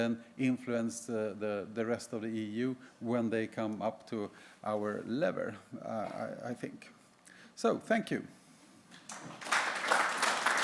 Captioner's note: applause